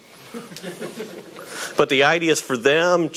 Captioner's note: audience laughing